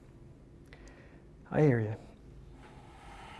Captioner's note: pause